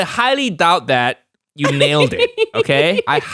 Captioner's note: giggles